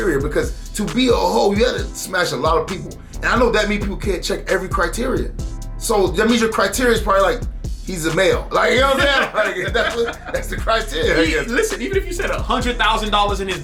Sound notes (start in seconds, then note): 11.2 laughing